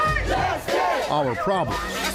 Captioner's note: crowd